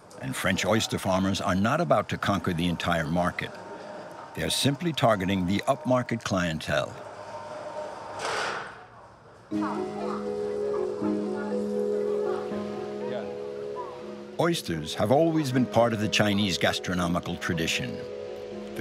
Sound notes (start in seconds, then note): 9.5 gentle music; 9.8 speaking in foreign language